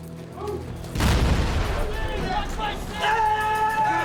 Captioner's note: explosion; screaming